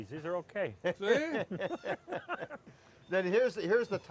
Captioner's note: laughing